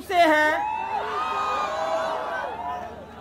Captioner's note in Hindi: चियरिंग